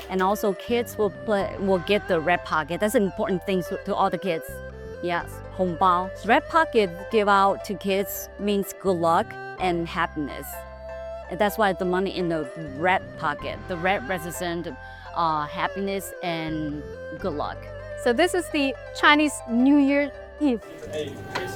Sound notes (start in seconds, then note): 5.3 speaking Mandarin